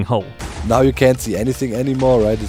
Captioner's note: explosion